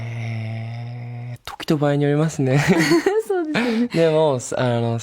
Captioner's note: laughs